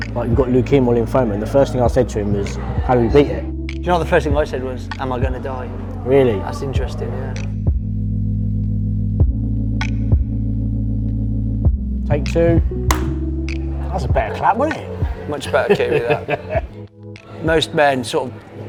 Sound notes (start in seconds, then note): 12.9 clap; 15.4 laughs